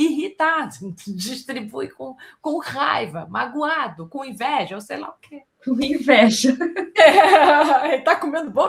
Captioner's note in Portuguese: risadas